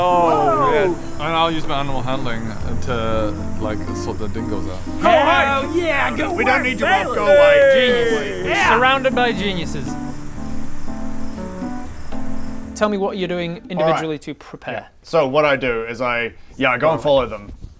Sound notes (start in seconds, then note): 10.8 crickets